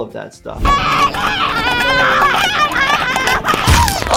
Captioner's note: Petunia yelling